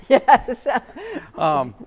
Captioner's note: laughs